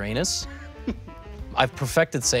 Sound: Toast chuckles

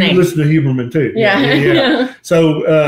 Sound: laughter

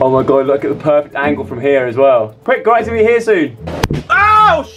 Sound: balloon pops

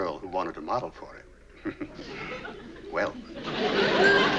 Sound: chuckles

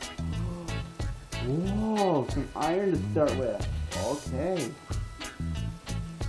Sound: I gasp

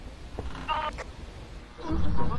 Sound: radio buzzes in background; over Radio

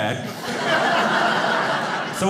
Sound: audience laughing

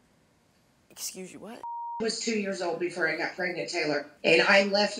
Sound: beeping

